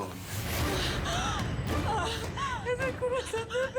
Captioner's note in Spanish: sollozos